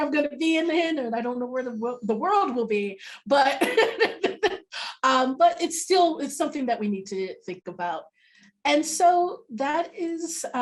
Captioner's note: laughs